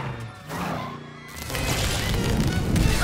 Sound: electricity crackling

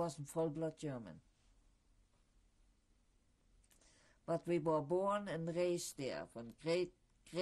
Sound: pauses for 3 seconds

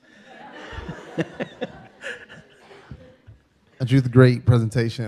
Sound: everyone laughing

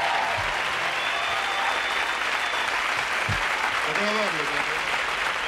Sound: audience applause

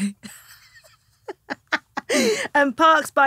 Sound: laughing

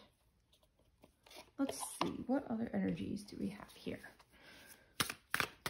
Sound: shuffling

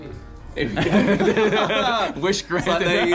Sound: laughs; everyone laughs

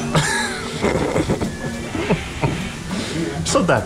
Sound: laughs

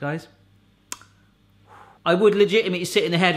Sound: exhaling

